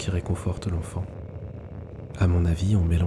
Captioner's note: hum